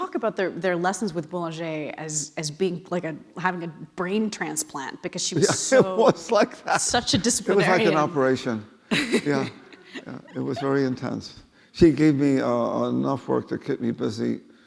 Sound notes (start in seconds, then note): 7.5 laughing